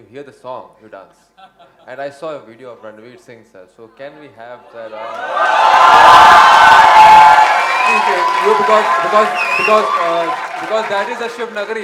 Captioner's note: cheers